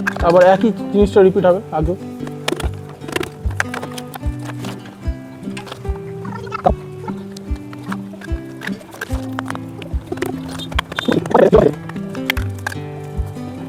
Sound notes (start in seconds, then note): 5.0 sound of pipes being fitted